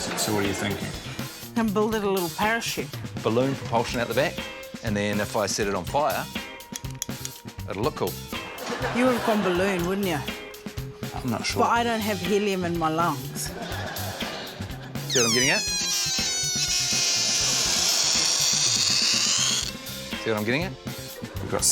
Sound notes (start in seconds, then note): 6.8 lighter clicks; 15.1 air squeals; 17.3 squealing continues